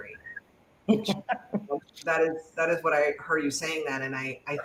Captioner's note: laughter